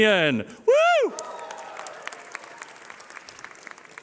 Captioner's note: cheering